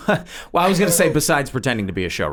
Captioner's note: laughs